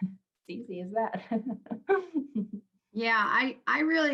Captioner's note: laughs